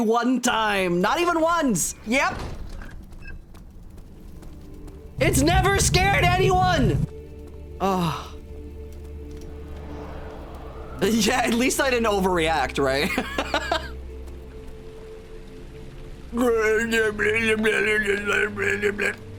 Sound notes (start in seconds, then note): 8.2 soft music; 9.6 wind blowing